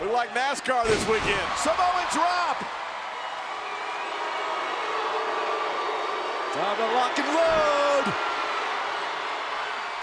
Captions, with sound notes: We're like NASCAR this weekend. Samoan Drop! (crowd boos) Time to lock and load!